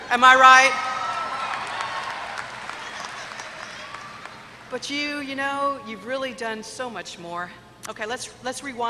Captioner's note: applause